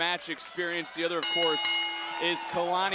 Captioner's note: bell dinging